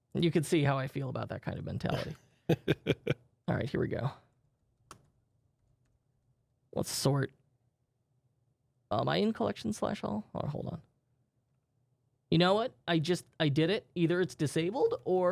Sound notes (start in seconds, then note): 2.5 softly chuckling